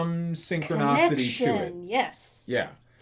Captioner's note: Amylin, interrupting